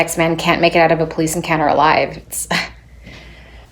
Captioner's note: scoffs